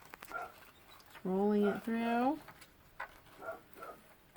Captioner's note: woof; dog barking